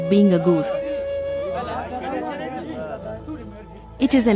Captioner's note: crowd murmuring